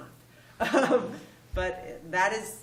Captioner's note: laughs